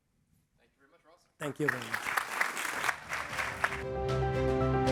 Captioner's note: applause